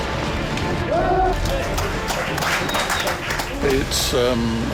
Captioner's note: crew cheering & applauding